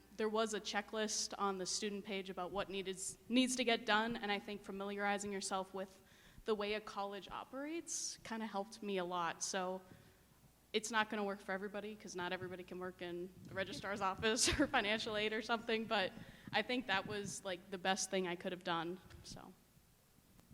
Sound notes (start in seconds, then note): 14.2 laughing